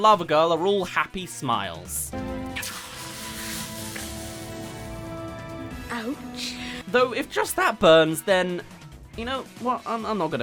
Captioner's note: kiss